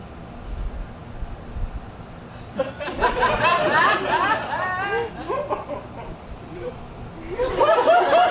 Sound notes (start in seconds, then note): 2.6 audience laughs